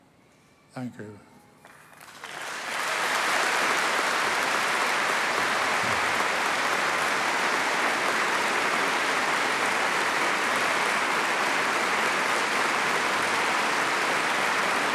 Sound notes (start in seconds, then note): 1.6 applause